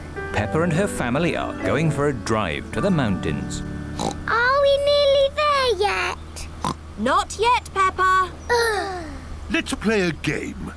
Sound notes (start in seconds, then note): 3.9 oinks; 6.6 oinks; 8.5 both sigh